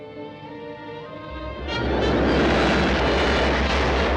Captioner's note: rumbling